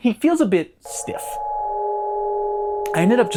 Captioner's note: Minecraft Cave Noise